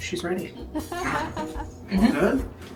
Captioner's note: laughter